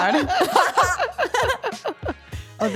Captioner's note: all laughing